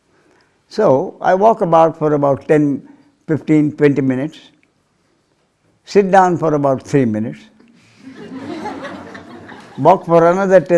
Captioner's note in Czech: smích